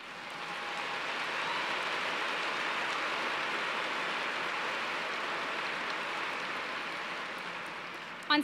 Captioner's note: applause